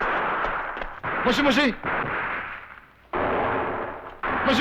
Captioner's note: non-english speech